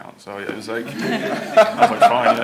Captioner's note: laughter